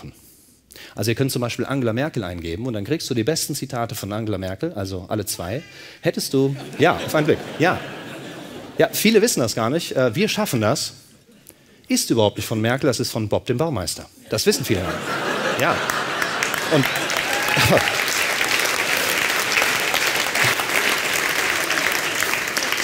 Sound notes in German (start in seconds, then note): 6.6 Lachen; 16.0 Lachen und Klatschen